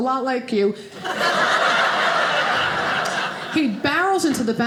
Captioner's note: audience laughing